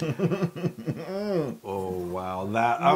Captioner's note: laugh